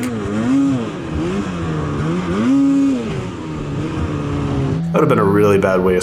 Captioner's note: snow mobile engines revving